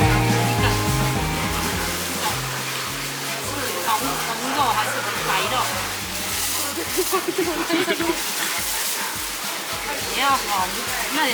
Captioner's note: Taiwanese